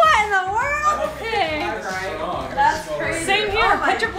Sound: family chattering

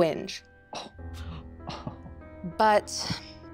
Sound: Squing groaning in excitement

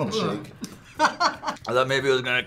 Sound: laughs

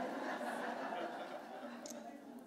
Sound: laughter

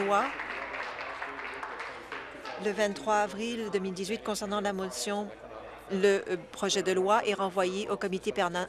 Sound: applause

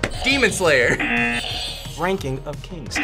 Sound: buzzer rings; buzzer

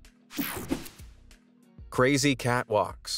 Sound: air whooshing

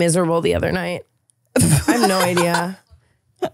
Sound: laughing

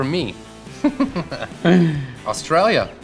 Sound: laughing

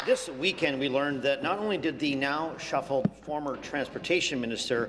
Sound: applause

